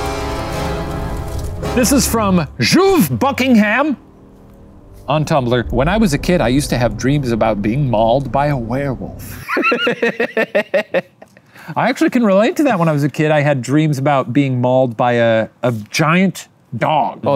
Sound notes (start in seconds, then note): 0.2 spooky music; 9.3 laughs